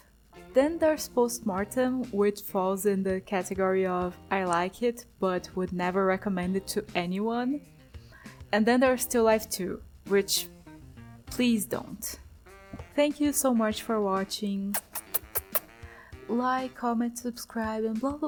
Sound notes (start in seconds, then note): 14.7 kiss noises